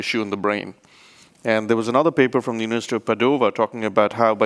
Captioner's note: speaks rapidly